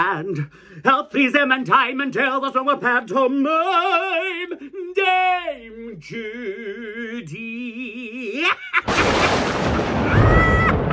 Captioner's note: evil Laughing